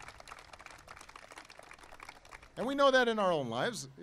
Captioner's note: applause